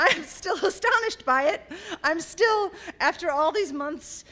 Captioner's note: laughter